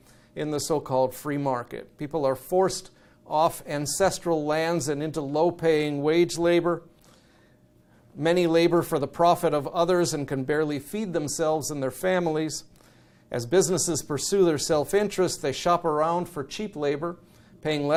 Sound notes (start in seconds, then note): none